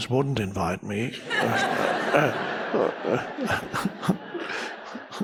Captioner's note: crowd laughs